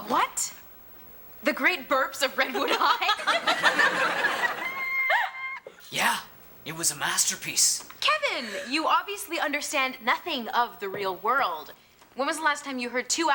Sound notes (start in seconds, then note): 2.4 Tanya and Morgan laugh; 2.5 audience laughing